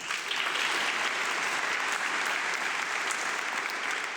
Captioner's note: audience clapping